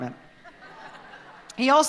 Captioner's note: laughter